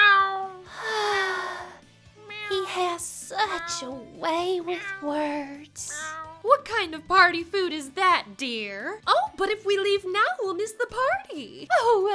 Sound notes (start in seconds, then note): 0.6 sighs